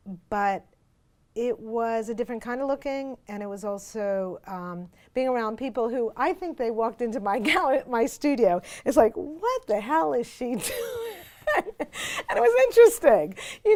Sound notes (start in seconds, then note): 10.6 laughs